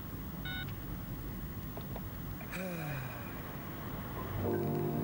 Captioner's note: phone beeps to end call; sighs; instrumental background music